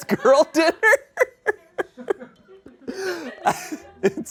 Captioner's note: audience laughing